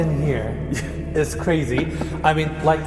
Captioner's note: chuckles